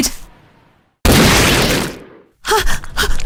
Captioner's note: shot